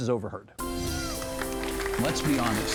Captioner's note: clapping